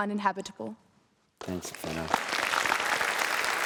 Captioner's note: applause